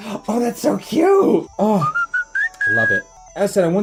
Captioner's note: big brand whistle